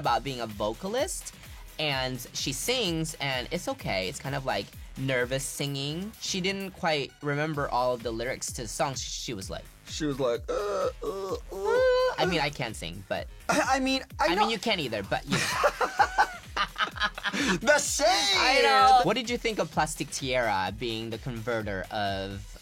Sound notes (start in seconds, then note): 10.3 groans; 15.3 laughs